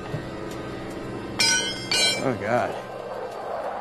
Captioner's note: suspenseful music; crowbar clatters